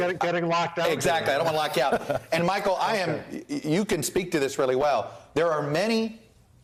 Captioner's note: laughter